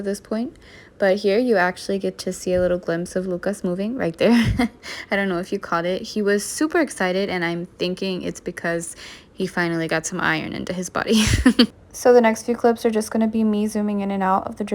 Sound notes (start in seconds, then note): 11.2 laughs